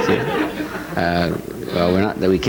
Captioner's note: audience laughs